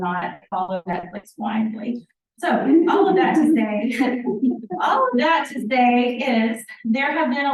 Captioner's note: laughter by the audience